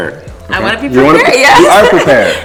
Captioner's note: laughs